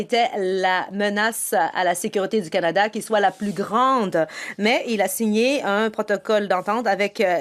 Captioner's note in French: voix de l'interprète